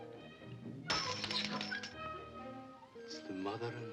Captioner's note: coin clanks